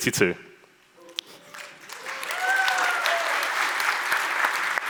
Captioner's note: audience applauds